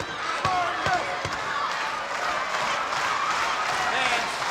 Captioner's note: audience applauding